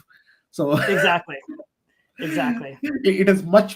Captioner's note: chuckling